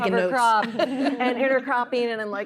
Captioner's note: laughter